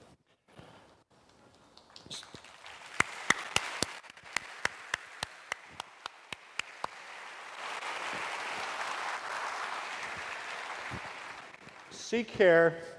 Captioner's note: applause